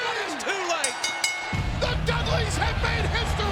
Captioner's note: bell ringing